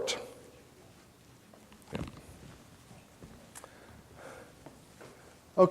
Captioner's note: pause in dialogue